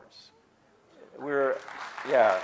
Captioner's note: audience clapping